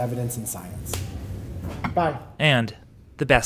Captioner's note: high five slap